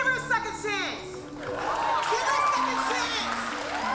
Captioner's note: cheering